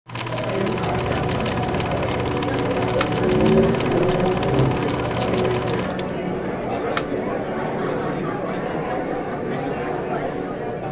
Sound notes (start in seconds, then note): 0.0 reel ticking; 7.9 crowd chattering